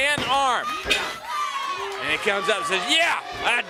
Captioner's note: crowd cheering